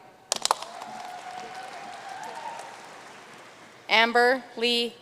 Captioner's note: audience cheering and applauding